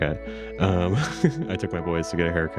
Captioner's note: laughs